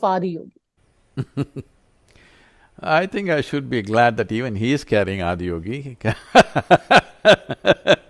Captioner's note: laughs